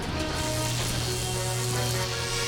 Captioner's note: cables hum